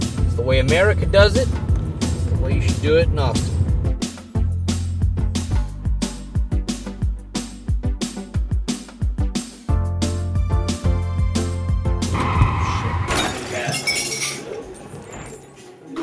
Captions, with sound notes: That's the way America does it That's the way you should do it in Austin Oh shit [car crash] [bar sounds]